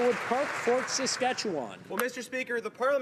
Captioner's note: some Applause